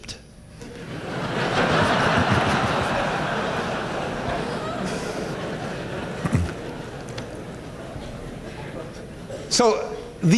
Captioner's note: laughter